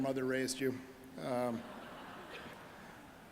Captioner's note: audience laughing